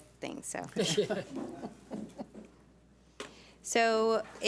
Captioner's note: board members laugh